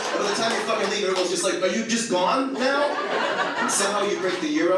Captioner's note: audience laughs; audience laughs